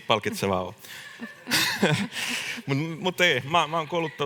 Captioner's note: naurahtaa